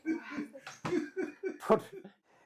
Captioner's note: laughter